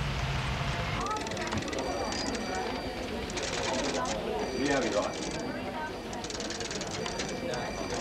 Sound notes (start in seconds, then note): 0.8 office personnel chatting; 1.0 phones ringing